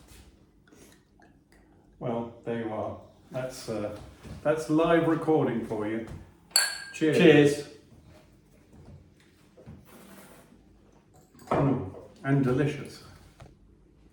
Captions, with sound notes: Well, there you are. That's live recording for you. (glasses clinking) Cheers. - Cheers. - Mm, and delicious.